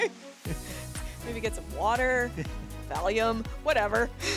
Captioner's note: laughs